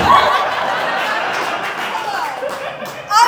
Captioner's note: audience Laughing